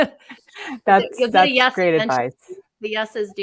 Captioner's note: speakers laughing